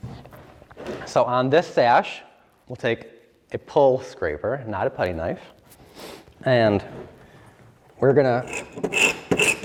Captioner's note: scraping noise